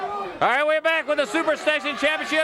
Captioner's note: crowd chatter